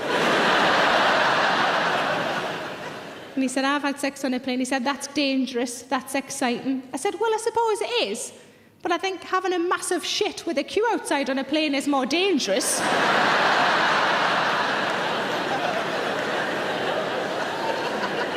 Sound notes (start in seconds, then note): 0.0 audience laughs; 12.7 audience laughing